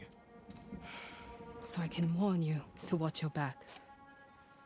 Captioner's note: sigh